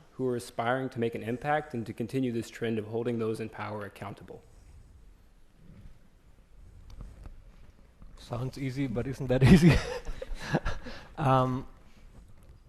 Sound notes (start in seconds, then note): 9.5 laughs